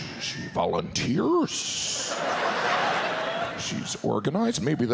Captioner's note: audience laughs